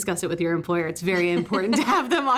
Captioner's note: both laugh